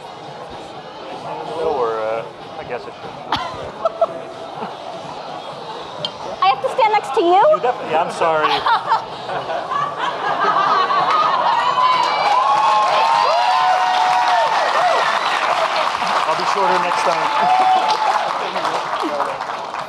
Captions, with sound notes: I have to stand next to you? - I'm sorry. (audience laughing) (audience clapping and cheering) I'll be shorter next time.